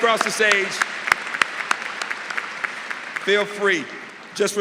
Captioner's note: applause